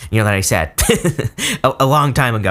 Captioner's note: reader laughs